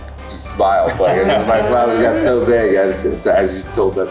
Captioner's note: group laughs